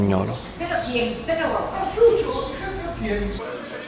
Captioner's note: people arguing